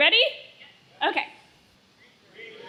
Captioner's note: crowd